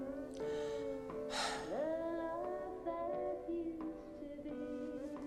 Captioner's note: sighs